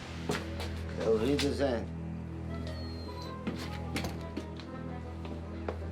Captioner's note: speaks foreign language